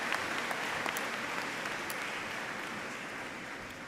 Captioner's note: applause